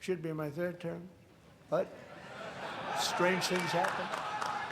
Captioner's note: applause